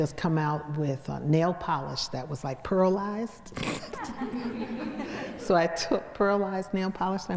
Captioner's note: laughs